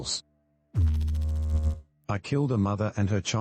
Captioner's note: electrical noise